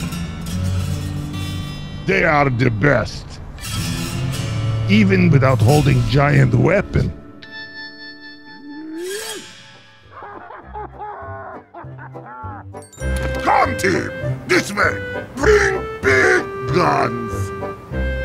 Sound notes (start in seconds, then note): 10.0 heavy laughing out loud